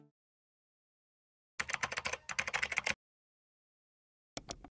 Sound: keyboard keys tapping

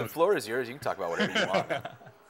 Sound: laughing

